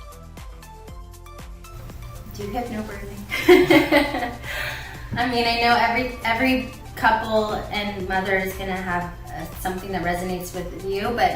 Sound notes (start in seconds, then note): 3.0 woman laughs